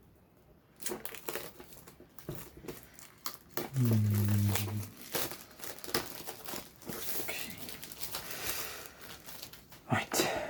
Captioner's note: plastic unwrapping noise